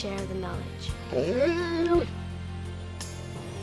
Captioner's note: whines